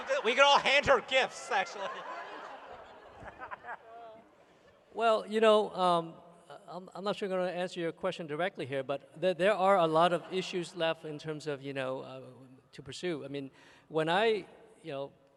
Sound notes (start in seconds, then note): 2.7 laughter